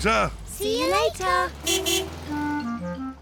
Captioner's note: car horn toots